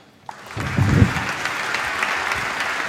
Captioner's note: applause